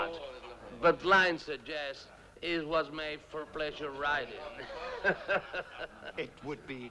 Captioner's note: laughs